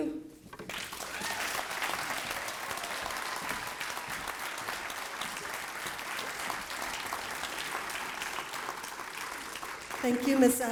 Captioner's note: applause